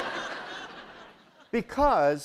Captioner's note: laughter